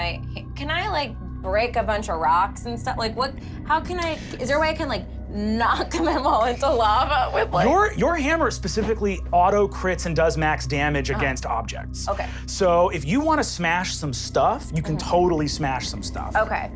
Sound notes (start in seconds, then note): none